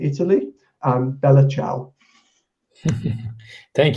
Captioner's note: speaks in foreign language